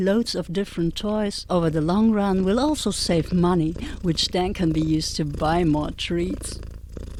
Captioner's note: cats start purring